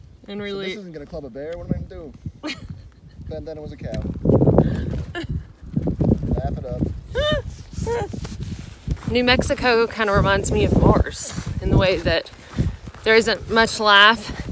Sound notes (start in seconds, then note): 2.4 laughs; 5.2 laughing; 7.1 continues laughing